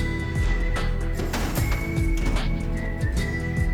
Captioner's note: clattering